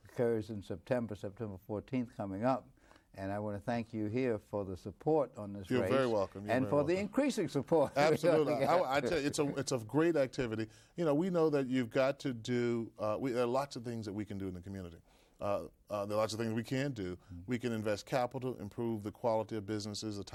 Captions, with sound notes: occurs in September 14th, coming up, and I wanna thank you here for the support on this race, >>You're very welcome. You're very welcome. >>and for the increasing support (laughs). >>Absolutely, I tell you, it's a great activity. You know, we know that you've got to do lots of things that we can do in the community. There are lots of things we can do. We can invest capital, improve the quality of businesses,